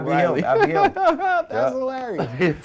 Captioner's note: laughing